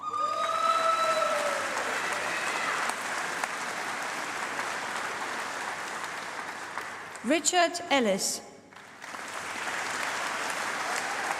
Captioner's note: applause